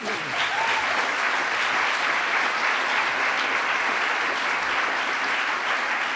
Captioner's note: applause